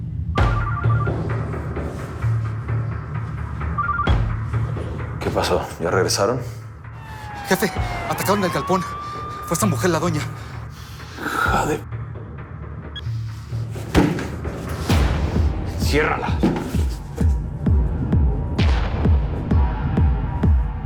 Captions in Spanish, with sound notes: [Suena el celular] ¿QUÉ PASÓ? ¿YA REGRESARON? - JEFE... ATACARON EL GALPÓN. FUE ESA MUJER, LA DOÑA. - HIJA DE ----. [Golpes] ¡ENCIÉRRALA!